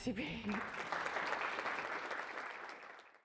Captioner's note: audience applauding